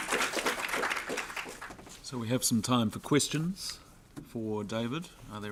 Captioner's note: audience applauds